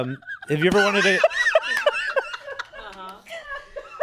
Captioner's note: laughs